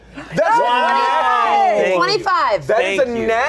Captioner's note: everyone exclaims